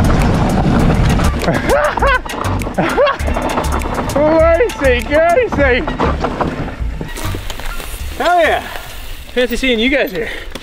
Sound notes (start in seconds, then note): 1.4 laughs